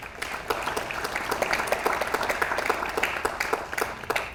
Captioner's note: audience applauds